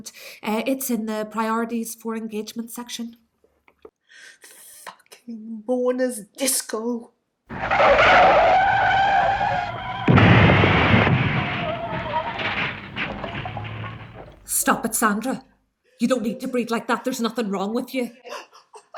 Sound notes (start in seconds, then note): 7.5 sound of car skidding and crashing; 11.6 hysterical crying sounds